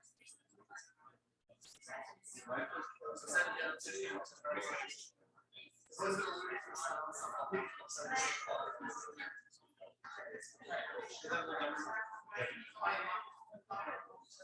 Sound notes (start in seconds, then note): 1.7 people chattering indistinctly